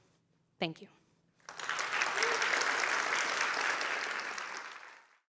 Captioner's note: applause